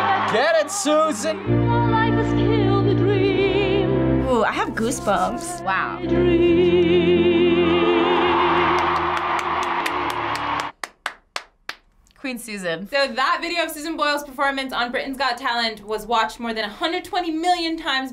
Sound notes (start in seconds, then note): 8.7 clapping